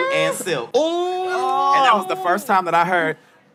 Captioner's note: exclaiming